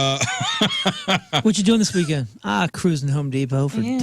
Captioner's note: laughing